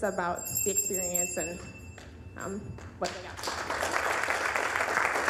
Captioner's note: bell dinging; applause